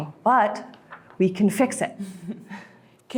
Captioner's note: laughs